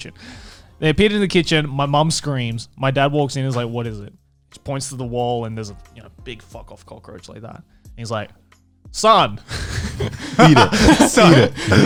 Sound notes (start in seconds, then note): 9.5 laughs